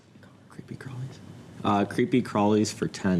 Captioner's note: whispers